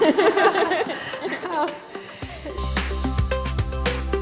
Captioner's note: laughter